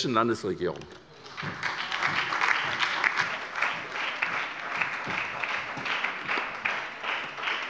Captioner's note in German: Anhaltender Beifall bei der SPD - Beifall bei Abgeordneten der LINKEN